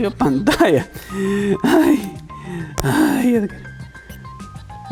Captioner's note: suffering noises